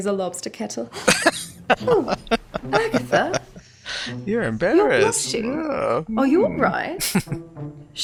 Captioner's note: laughing